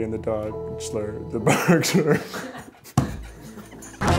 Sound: laughter

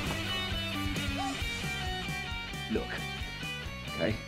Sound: Eloise gasping

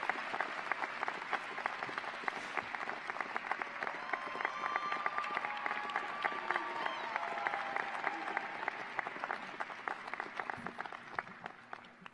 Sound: applause

